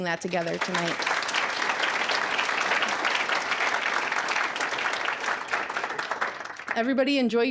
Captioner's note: applause